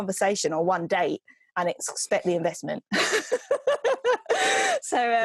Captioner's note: laughs